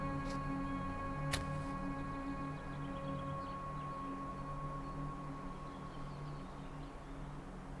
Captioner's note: a match strike as the music fades away